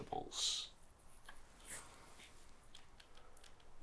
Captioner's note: game controller buttons clicking